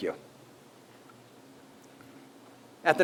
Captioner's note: pause